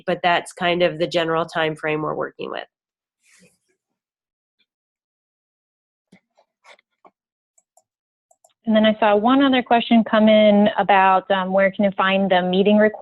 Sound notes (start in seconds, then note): 5.2 silence